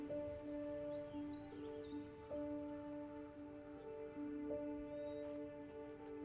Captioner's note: somber music; birds chirping